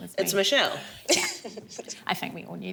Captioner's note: laughs